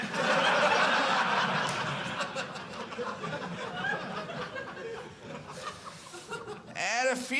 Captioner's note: audience laughing